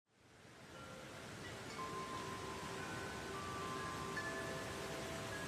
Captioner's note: wind whooshing softly; wind chimes ringing